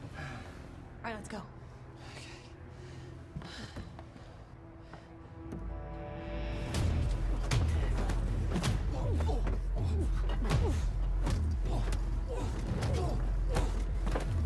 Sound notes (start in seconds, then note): 3.4 tense music; 8.6 blows thudding; 8.6 man groaning